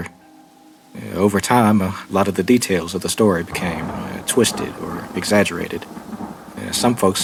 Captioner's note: thunderstorm